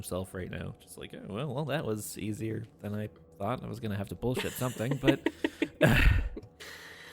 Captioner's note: chuckles